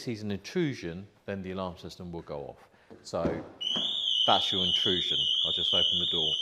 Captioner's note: alarm sounds